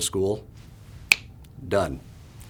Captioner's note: finger snap